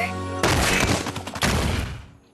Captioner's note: crash